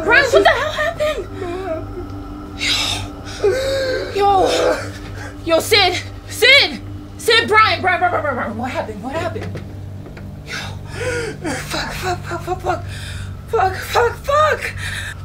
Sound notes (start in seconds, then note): 2.6 Bryan crying HARD; 7.3 Bryan crying; 10.5 Bryan continues crying